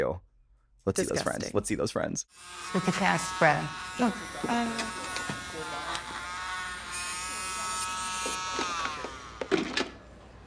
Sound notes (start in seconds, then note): 5.0 cast saw buzzing; 8.8 saw powers down, clunks